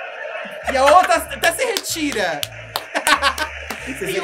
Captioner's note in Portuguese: bate palmas